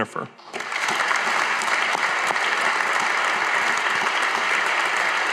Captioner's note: audience applauding